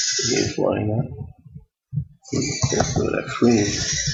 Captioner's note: speaking to self